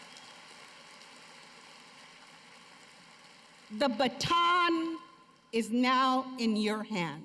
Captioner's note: cheers and applause